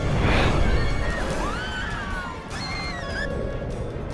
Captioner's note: screaming